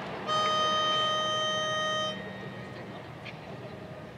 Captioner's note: playing tone